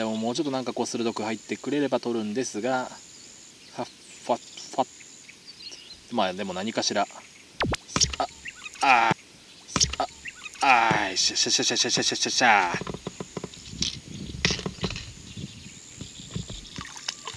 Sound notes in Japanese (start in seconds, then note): 10.5 フリーズしたパソコンのような、謎の奇声